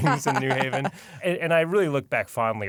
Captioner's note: laughter